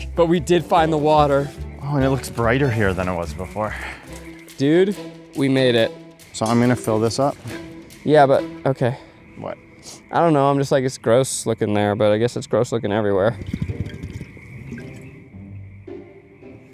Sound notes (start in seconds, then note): 13.2 water burbles